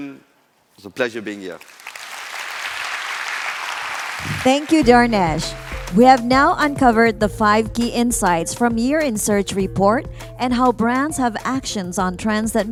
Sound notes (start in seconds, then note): 1.5 applause